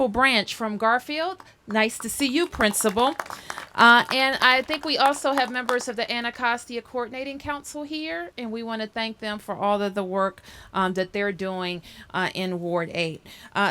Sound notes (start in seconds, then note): 3.5 applause